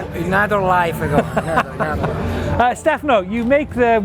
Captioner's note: laughs